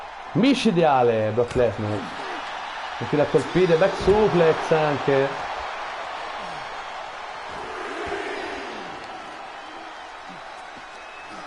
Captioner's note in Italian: Applauso